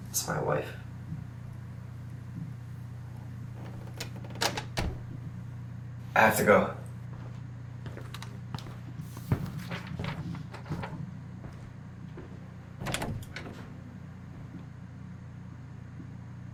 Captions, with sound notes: my wife. (floorboard creaks) I have to go. (footsteps approach)